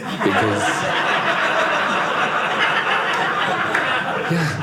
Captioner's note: audience laughing